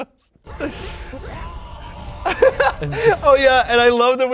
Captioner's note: chokes